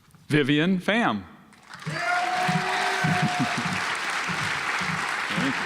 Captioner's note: audience applauds